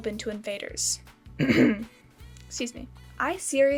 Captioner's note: cough